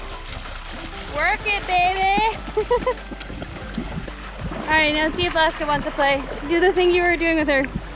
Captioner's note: laughter